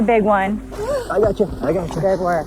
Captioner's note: whimpers